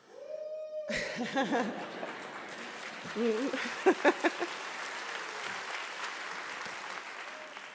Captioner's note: cheering; applause